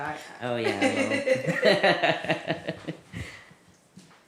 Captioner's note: laughter